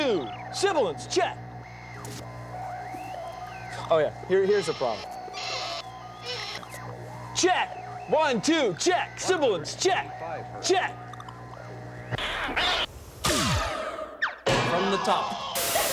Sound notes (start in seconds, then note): 4.5 squeaking; 12.1 screeching, pounds